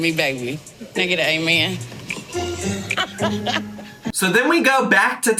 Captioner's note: laughing